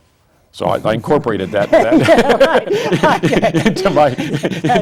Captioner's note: laughs